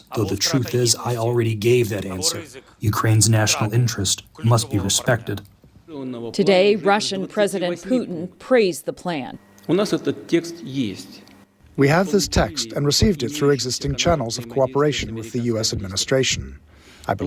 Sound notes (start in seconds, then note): 12.1 through translator